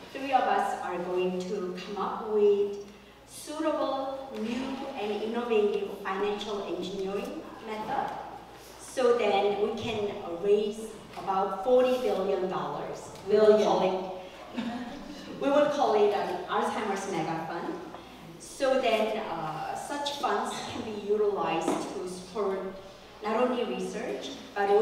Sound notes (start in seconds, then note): 14.4 laugh